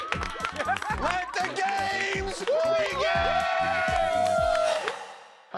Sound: laughter; cheers and applause

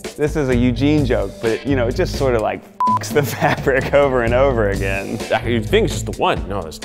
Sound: beep

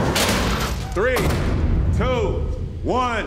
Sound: metal squealing; door clanging

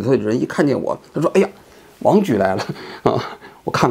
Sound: laughs

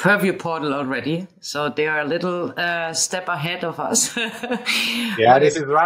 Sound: laughing

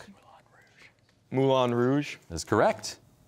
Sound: whispering

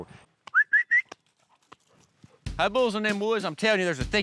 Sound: whistling

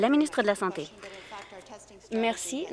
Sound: some Applause

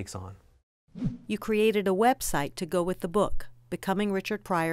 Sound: voiceover

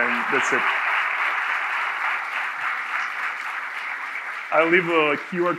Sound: audience applauding

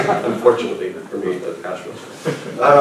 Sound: laughter

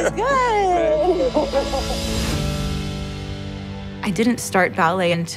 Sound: laughs

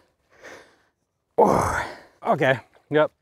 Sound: grunting

